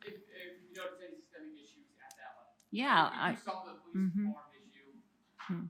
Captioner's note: faintly speaking